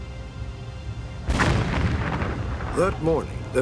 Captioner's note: gunfire